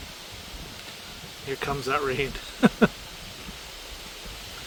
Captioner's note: heavy rainfall